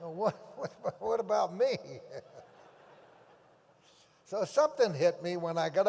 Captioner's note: laughs